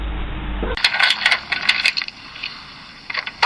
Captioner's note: banging